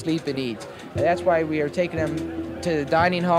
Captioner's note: archival news audio